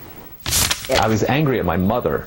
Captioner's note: page turns